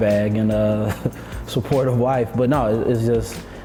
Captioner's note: chuckles